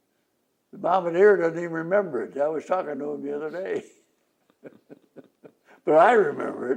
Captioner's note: laughs